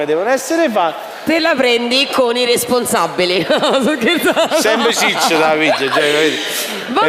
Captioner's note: laugh